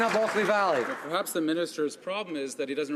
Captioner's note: some Applause